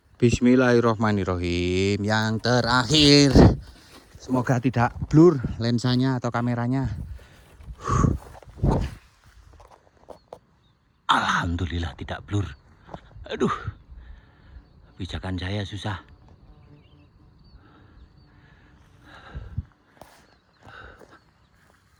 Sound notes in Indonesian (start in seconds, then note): 20.6 menghela napas